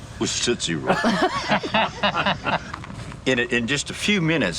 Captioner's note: all laughing